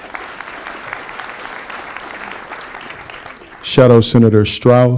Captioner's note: applause